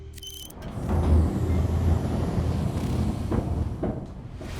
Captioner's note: equipment squealing; gate humming